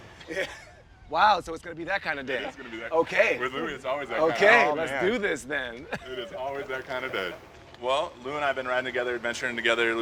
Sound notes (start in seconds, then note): 5.7 chuckles